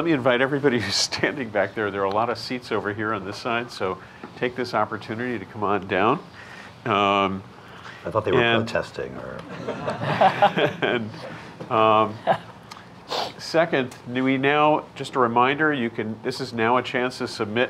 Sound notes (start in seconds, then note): 11.2 group chuckling